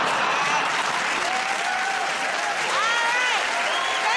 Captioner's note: cheers and applause